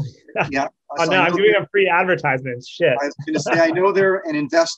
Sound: laughs; laughs

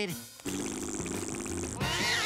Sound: blows a raspberry; hisses

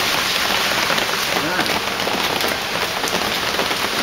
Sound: the pitter-patter of heavy raindrops on awning

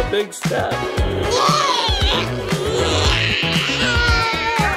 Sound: screams

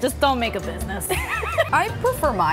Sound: laughs

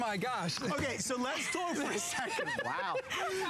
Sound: laughter

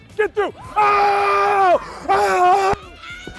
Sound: screams

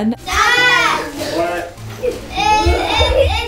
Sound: kids Yelling

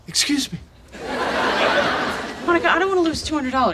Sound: audience laughing

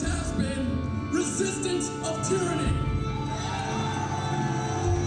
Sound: crowd cheers

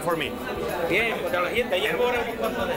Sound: speaking spanish

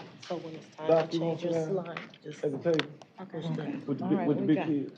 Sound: indistinct chatter

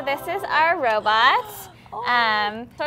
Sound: happy Molly noises

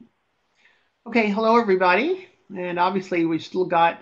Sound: voiceover

